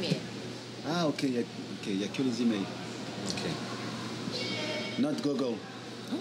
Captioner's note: speaking foreign language